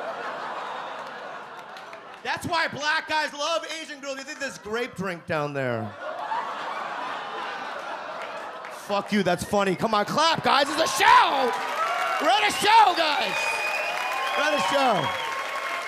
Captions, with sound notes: That's why black guys love Asian girls, they think there's grape drink down there. (audience scream with laughter) Fuck you, that's funny. Come on, clap guys! This is a show! We're on a show, guys! (audience applaud) We're on a show.